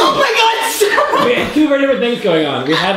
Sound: voiceover

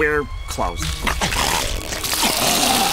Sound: grunting

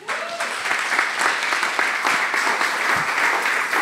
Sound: clapping

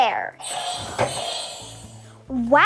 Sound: buzzer ringing

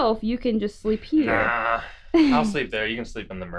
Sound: laughs

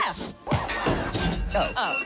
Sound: grinding

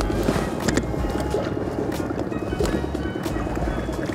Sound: water dripping

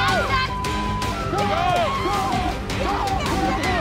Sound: beep; yelling

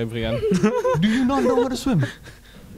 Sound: laughing

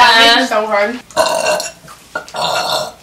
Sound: burps; burps again

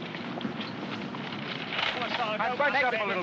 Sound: vehicles rumbling in distance

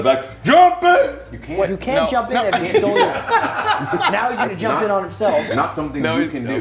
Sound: laugh

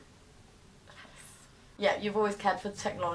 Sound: whispers

